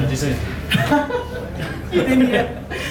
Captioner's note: laughs